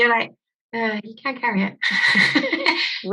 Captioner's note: laughing